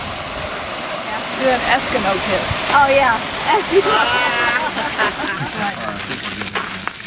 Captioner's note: laughter